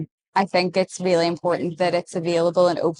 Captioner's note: none